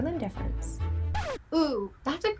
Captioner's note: record scratches